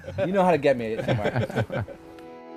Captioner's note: all laughing